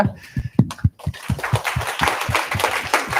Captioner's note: applause